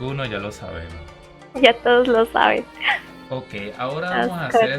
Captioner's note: laughs